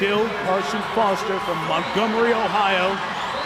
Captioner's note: audience cheering